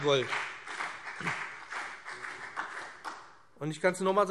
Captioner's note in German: Beifall BÜNDNIS 90/DIE GRÜNEN und CDU